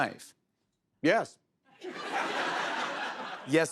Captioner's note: laughter